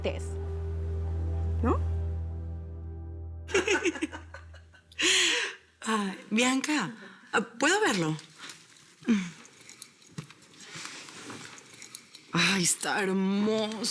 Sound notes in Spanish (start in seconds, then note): 6.1 Risas